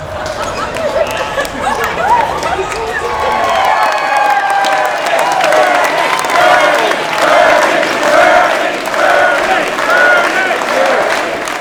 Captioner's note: Laughing, chants of "Bernie"